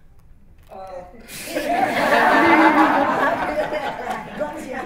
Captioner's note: laughter